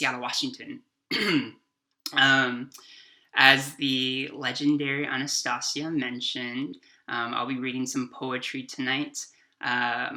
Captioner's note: clears throat